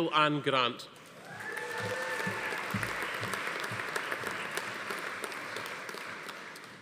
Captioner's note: attendees cheering; audience applauding